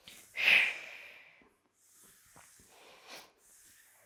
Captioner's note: breathing sharply